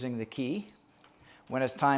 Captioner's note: key jingling